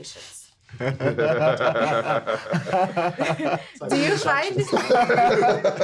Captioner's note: everyone laughing